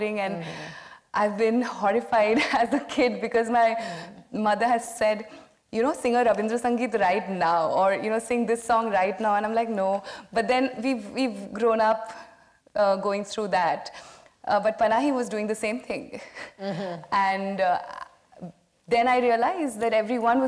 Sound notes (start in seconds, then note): 1.9 laughs; 16.5 laughs